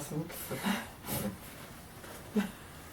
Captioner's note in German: lacht